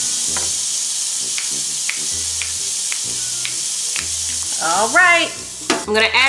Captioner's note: patty sizzling; fingers snapping